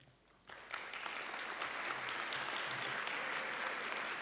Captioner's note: audience applauding